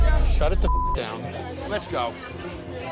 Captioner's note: beep